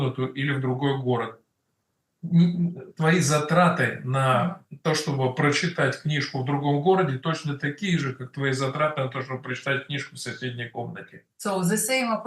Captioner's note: Russian